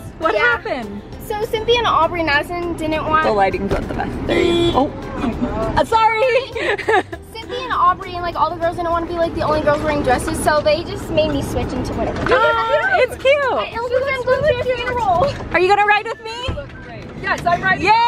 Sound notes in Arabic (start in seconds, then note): 4.2 تزمير بوق السيارة; 6.2 يضحك